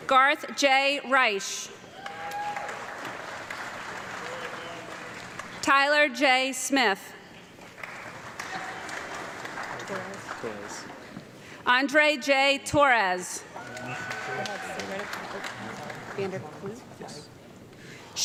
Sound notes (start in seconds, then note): 1.9 audience clapping; 7.5 audience clapping; 13.5 audience clapping and cheering